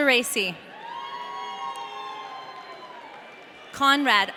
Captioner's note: audience cheering